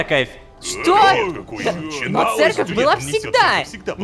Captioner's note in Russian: Возмущения толпы